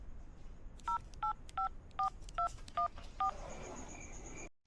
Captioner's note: phone beeping